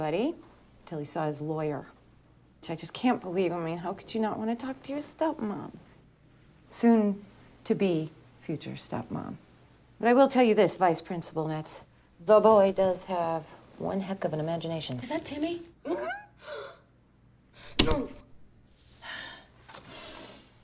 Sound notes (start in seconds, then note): 15.4 gulps; 16.4 gasps; 19.8 exhales deeply